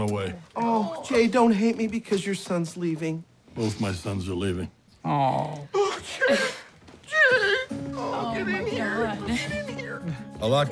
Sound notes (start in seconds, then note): 5.8 voice breaking